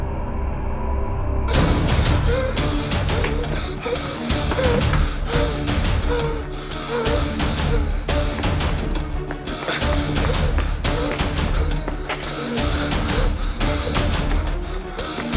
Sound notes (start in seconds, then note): 1.8 dramatic music; 1.8 heavy breathing